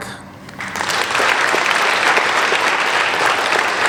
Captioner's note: applauding